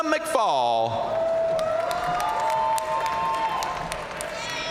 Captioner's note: audience cheering and applauding